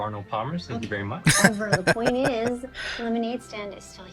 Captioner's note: laughing